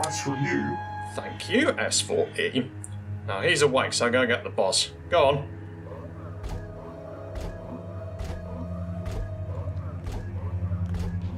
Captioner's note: robotic voice; robotic walking sounds